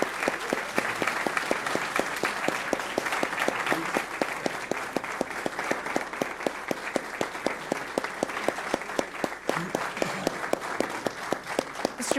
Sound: applause

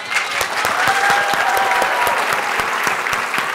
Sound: applause

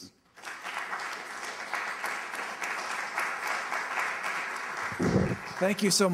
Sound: applause

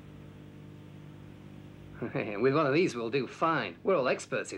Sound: laughs

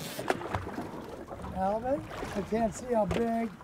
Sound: reel spinning

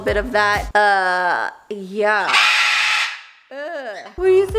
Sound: parrot screams

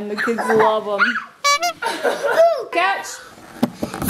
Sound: children laughing

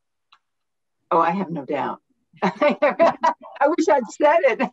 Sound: laughter

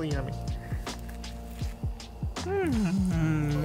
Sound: s'more crunches

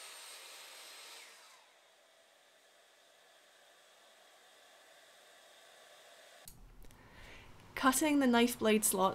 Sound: tool Noise

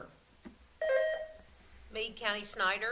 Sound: buzzer sounding

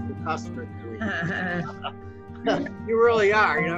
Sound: laughing

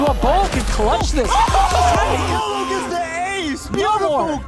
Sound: laughs

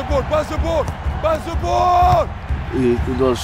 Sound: ball thuds

